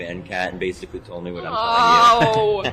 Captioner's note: laughs